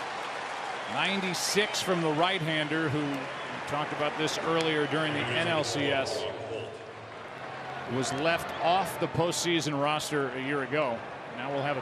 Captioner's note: laughs